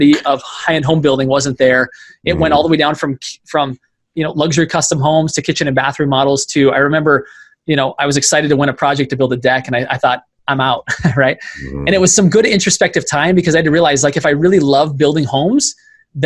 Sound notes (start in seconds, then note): 11.4 laughing